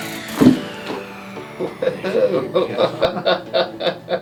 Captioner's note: joints cracking